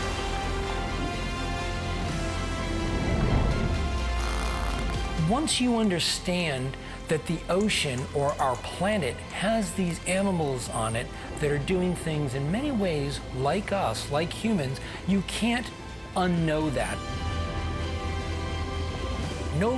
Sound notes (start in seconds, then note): 0.3 sweeping inspirational music; 4.0 whales clicking; 17.3 upbeat inspirational music